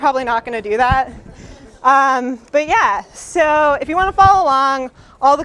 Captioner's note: light Laughter